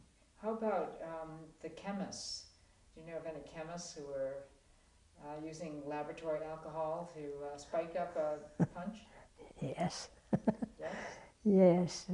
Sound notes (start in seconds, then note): 10.3 laugh